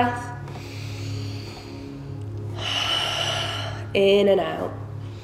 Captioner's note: heavy breathing